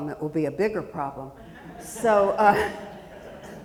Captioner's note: audience chuckling; chuckles